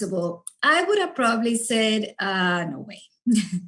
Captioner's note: giggles